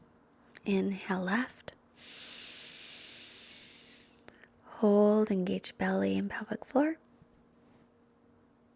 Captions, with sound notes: Inhale left. (inhales deeply) Hold, engage belly and pelvic floor.